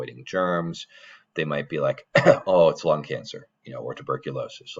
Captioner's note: coughs